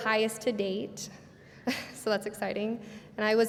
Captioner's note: laughs